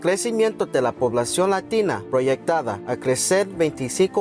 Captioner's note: speaking Spanish